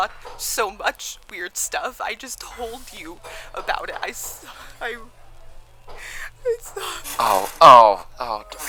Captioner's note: sobbing